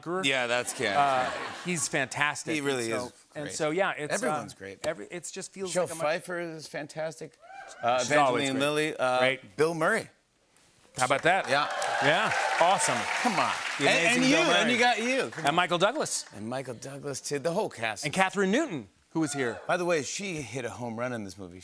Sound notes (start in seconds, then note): 0.6 laughter; 7.4 cheering; 11.2 cheering and applause